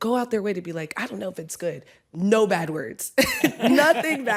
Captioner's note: chuckles; laughs